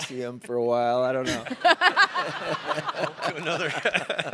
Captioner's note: all laughing